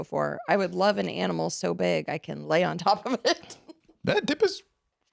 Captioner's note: laughs